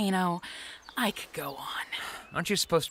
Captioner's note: sighs